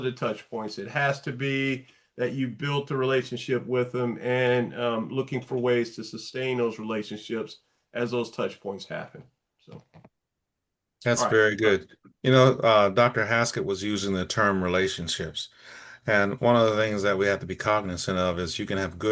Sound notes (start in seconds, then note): none